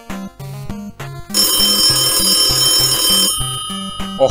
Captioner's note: telephone is ringing